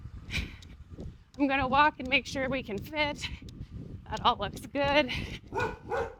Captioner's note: dogs Barking